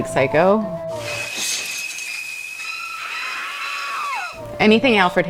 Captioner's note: chilling scream; suspenseful music